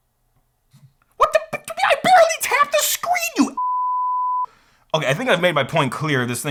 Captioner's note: beep